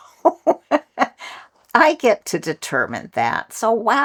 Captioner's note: laugh